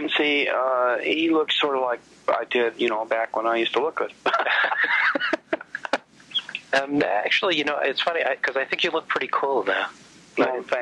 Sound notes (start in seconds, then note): 4.2 laughs